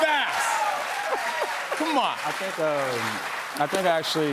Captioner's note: cheers and applause